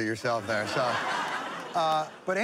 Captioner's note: laughter